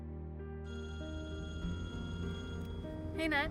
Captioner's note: cell phone rings